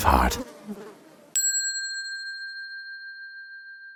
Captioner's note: bell dinging